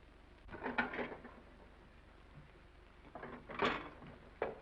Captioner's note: plates clattering